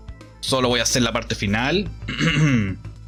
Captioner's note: clears throat